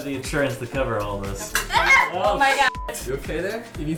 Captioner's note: screams